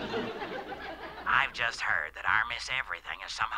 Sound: on phone

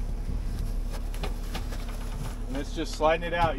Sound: wind

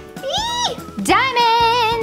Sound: squealing

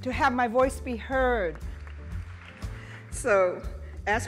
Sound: audience applauding

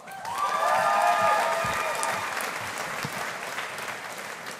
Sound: audience applauding

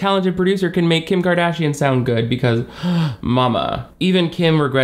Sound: gasps

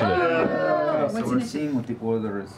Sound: groaning

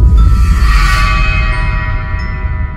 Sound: whoosh; creepy bell music

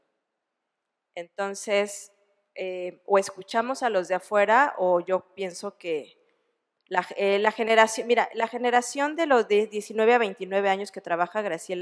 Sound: speaking spanish

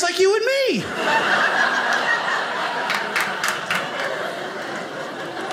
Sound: audience laughing

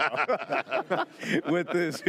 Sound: laughs

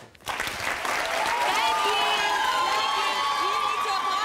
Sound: audience clapping

